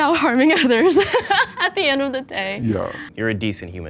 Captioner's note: laughs